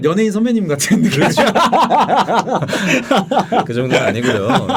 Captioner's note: laughing